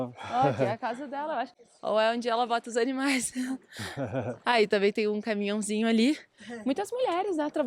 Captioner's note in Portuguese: risadas